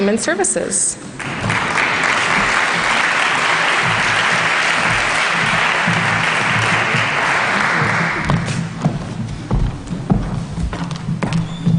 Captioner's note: applause